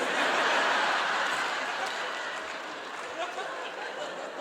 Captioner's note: audience laughing